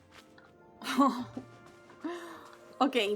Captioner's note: laughs